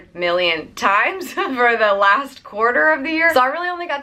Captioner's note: laughs